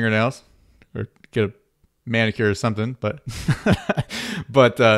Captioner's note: laughs